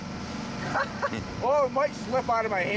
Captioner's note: laughs